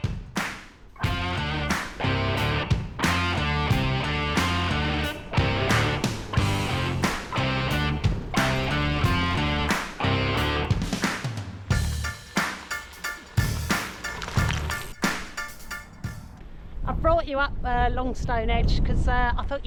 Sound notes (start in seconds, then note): 14.9 wind